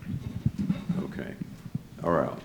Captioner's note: microphone adjusts